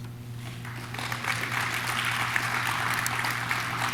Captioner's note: audience claps